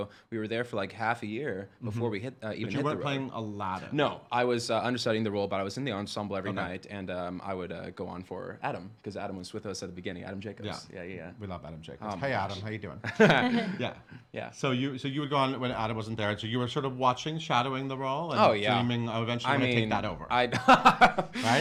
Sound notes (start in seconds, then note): 13.1 chuckling; 19.9 laughing